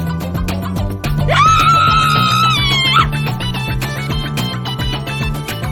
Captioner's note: screams